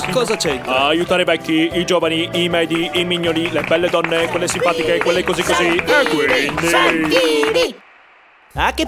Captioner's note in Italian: applausi